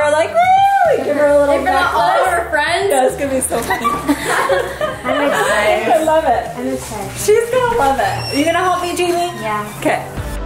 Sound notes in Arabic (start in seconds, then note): 3.5 ضحك